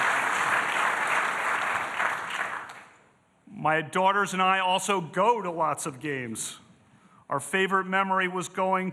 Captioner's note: applause